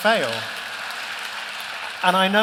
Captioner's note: applause